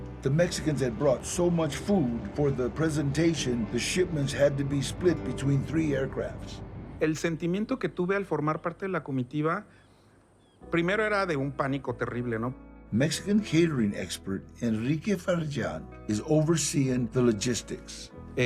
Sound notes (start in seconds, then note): 7.2 in Spanish; 12.9 in English